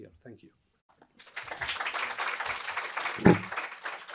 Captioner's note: applause